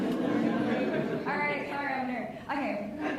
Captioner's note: laughs